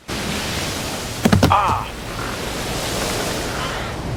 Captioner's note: wave spalsh; thump asn the narrator cries in pain